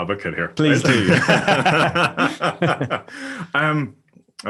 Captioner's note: laugh